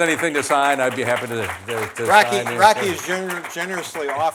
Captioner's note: applause